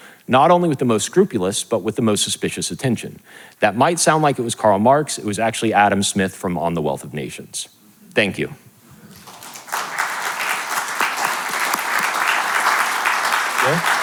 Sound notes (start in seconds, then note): 9.0 audience clapping